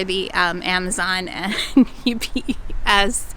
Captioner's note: laughs